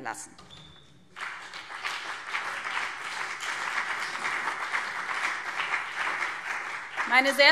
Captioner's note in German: Beifall BÜNDNIS 90/DIE GRÜNEN und CDU